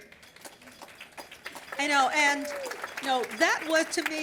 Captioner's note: applause